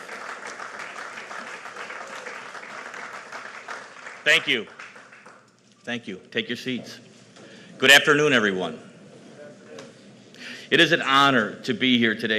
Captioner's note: applause